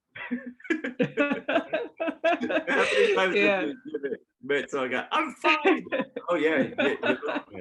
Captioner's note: laughter